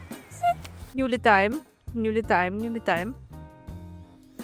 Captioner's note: speaking foreign language